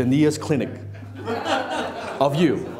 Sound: laughing

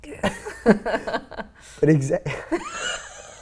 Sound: laughing

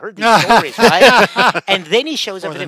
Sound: laughing

